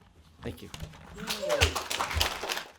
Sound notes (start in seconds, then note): 1.1 applause